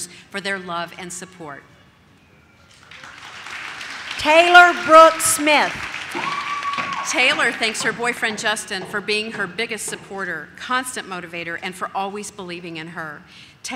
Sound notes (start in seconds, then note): 2.7 audience claps